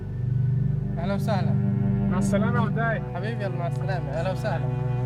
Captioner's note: dramatic orchestral music; speaking foreign language